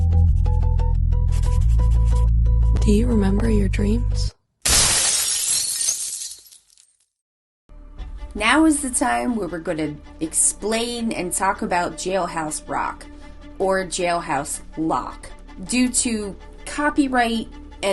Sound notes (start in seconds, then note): 4.6 glass shatters